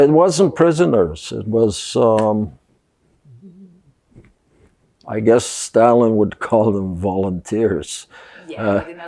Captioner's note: laughing